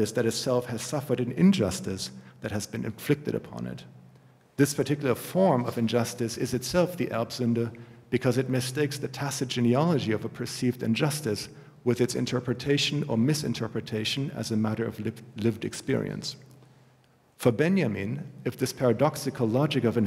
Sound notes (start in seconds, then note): 7.2 german